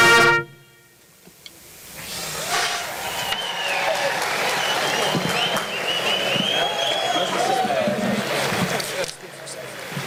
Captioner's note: applause